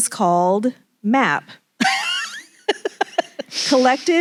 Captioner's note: laughs